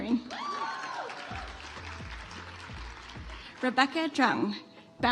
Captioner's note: audience applauds